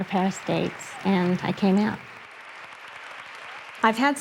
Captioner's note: audience applauding